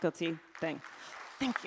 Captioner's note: applause